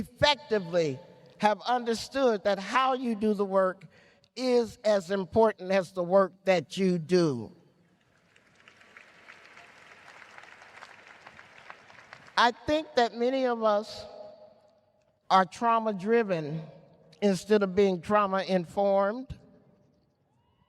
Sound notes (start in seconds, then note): 8.0 applause